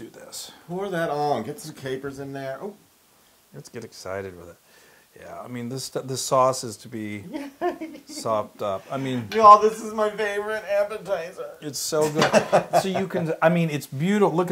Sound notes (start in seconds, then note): 7.3 laugh; 12.0 laugh